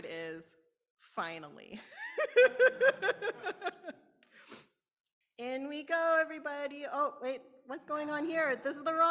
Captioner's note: laughter